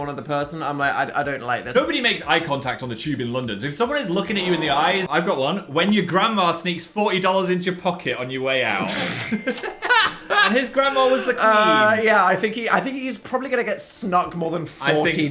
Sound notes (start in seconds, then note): 8.8 both laughing; 8.9 cash register chiming